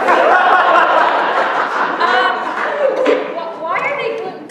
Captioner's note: laughter